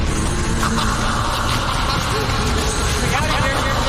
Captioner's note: Râsete cu ecou